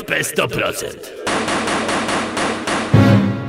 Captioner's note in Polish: pukanie do drzwi